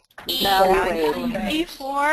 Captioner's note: voiceover